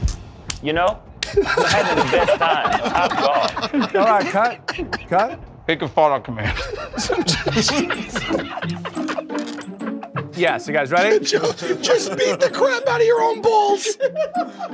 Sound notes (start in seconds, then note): 6.5 Tenderloins laughing